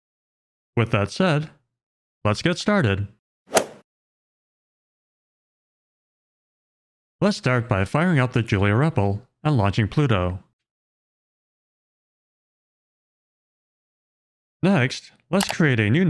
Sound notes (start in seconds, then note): 3.6 golf ball hit sound